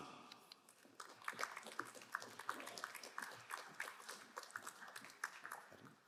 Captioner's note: crowd cheering and applauding